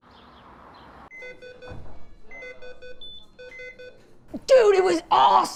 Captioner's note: device beeping